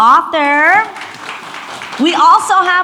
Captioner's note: audience applauds